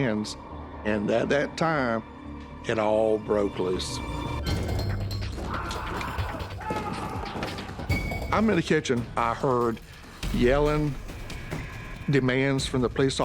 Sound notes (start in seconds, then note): 4.6 yelling